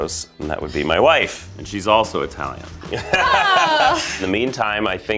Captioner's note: laughs